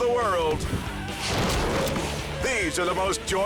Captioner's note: person thuds